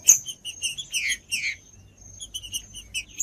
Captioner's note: trinca ferro cantando